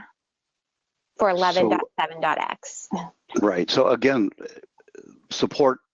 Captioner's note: chuckles